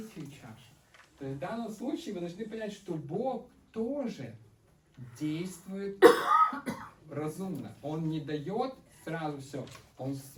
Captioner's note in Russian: кашель